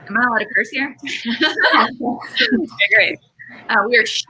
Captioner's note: laughs